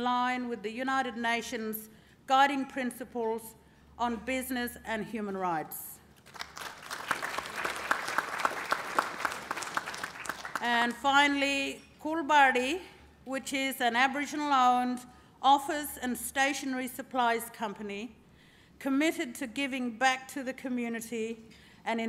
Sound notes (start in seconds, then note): 6.2 applause